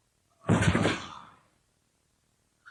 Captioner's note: SFX: body slumps to the ground